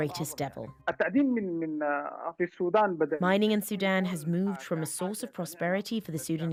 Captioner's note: speaking alternate language